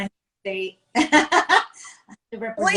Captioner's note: chuckles